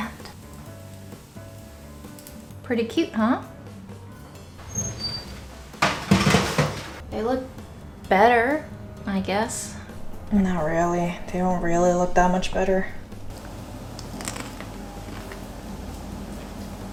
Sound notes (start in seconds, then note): 0.3 upbeat music; 5.2 rattling sound; 12.8 crackling sound